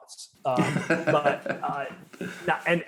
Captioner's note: laughing